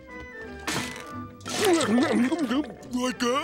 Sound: chomping

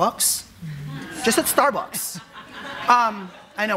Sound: audience laughing

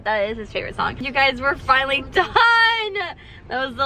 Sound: laughs

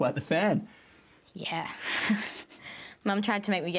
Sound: laughs

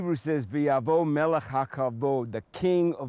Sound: speaking Hebrew

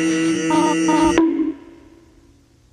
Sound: bonk

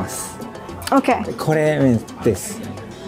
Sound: speaking in Japanese

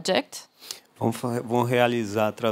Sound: non-english speech

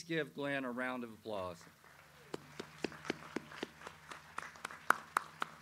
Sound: audience applauding

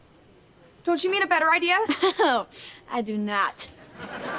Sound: chuckles

